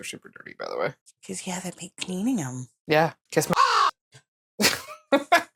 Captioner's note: caw